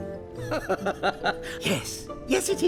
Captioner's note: laughing